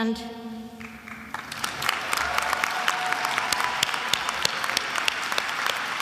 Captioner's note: attendees applauding